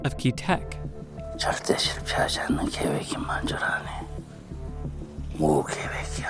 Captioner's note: speaking foreign language